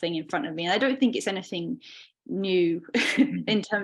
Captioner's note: chuckling